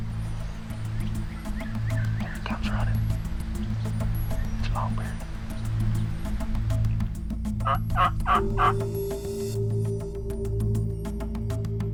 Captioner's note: whispering